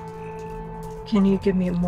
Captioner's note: cricket chirping